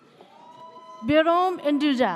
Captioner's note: audience cheers